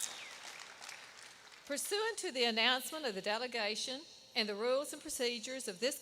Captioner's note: applause